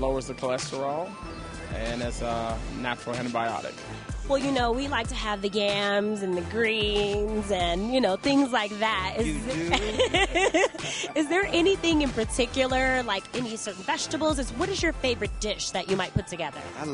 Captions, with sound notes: It lowers the cholesterol, and is a natural antibiotic. - You know we like to have the yams, and the greens, and things like that. - You do? (laughter) - Is there anything in particular, like any certain vegetables? What is your favorite dish that you might put together?